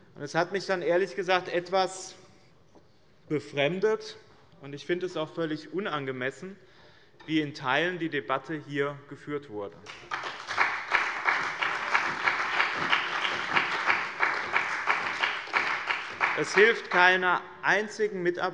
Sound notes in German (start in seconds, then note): 9.8 Beifall bei dem BÜNDNIS 90/DIE GRÜNEN und der CDU